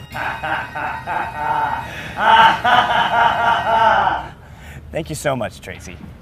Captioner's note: echoing laugh